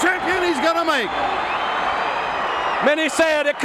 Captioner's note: audience cheering